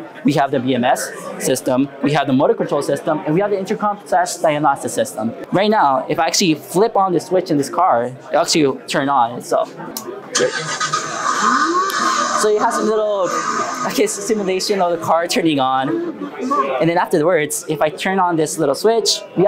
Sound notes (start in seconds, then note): 10.3 car engine sounds